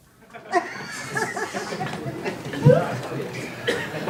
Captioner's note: audience laughter